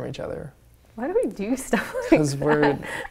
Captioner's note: laughing